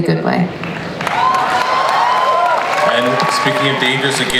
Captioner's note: audience applauds and cheers